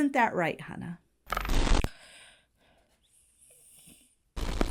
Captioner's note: audio glitches; audio glitches